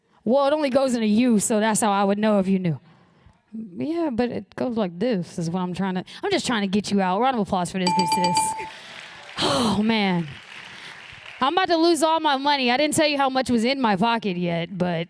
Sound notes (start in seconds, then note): 7.9 applause